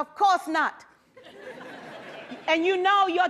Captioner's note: laughter